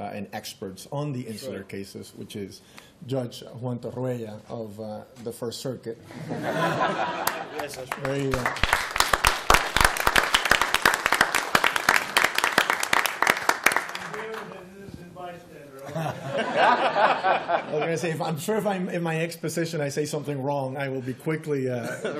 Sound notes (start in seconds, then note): 7.2 applause; 15.8 laughter